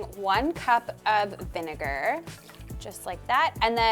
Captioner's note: vinegar sloshing